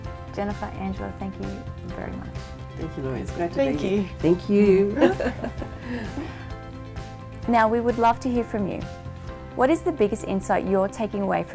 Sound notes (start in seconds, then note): 4.9 laughter